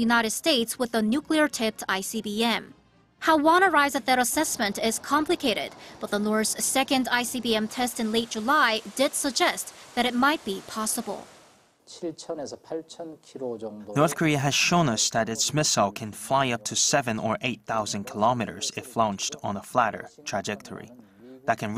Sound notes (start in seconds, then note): 12.4 Korean